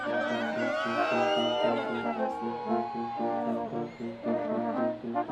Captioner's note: students cheering and screaming; orchestral music continues